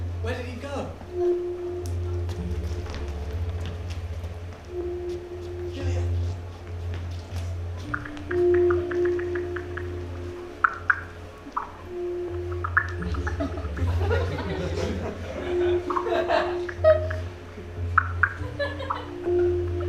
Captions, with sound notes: Where did he go? Julia! [PHONE KEYS TYPING]